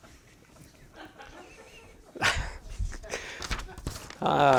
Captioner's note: audience chuckles